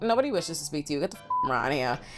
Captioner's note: beep